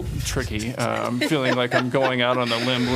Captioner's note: laughter